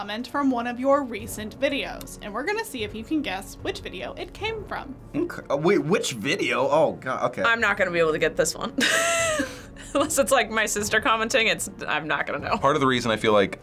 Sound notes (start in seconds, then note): 9.1 laughs